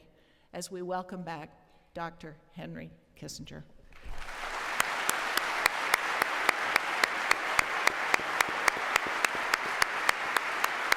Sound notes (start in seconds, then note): 3.9 applause